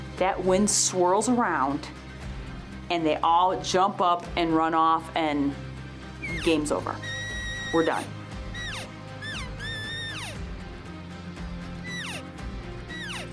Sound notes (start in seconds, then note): 9.2 elk mewing